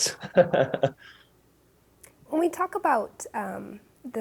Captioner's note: laughing